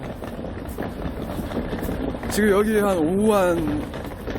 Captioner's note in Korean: 캐리어 끌고 다녀서 드르륵 소리